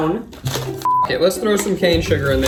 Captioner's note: beep